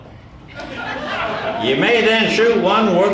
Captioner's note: audience laughing